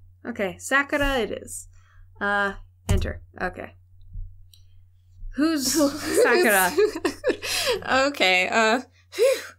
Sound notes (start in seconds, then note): 5.7 laughter